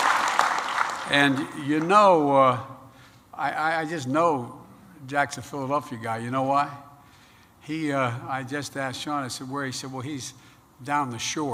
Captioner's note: applause